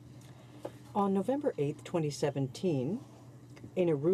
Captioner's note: speaking French